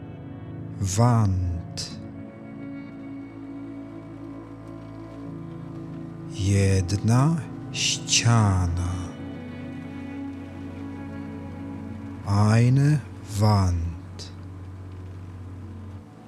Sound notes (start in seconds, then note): 1.9 german; 13.9 german